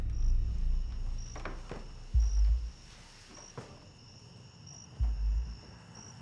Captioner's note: soft suspenseful music; crickets chirping